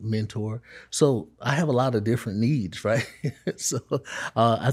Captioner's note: chuckles